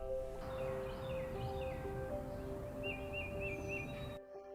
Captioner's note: birds chirping